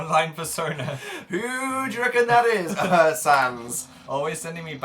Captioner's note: both laugh; coughs